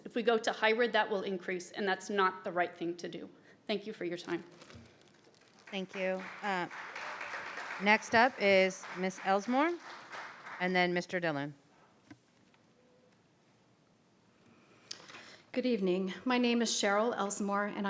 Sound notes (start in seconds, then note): 5.5 audience applauds